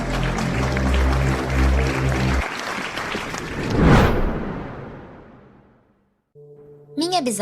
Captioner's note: applause